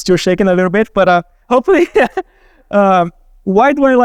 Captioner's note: laughing